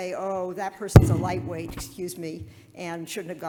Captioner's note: Ms. Liskov accidentally bumps microphone